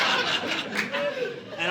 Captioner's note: audience laughing